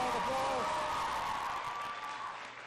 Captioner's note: applause